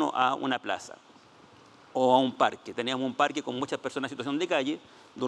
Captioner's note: speaking Spanish